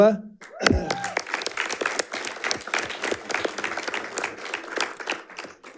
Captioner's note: audience applauding and cheering